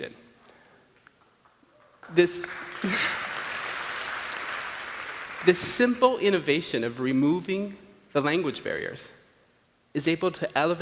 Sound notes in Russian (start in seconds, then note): 1.2 Аплодисменты